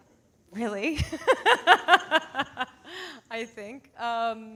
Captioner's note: laughs